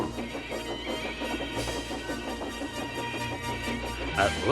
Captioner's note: Thomas brakes loudly